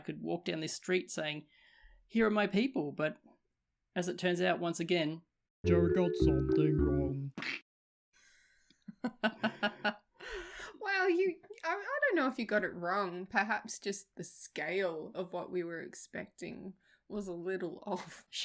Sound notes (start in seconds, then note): 8.8 laughter